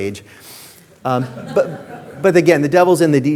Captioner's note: audience laughing